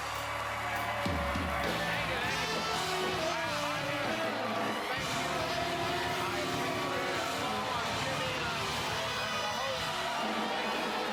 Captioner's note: cheers and applause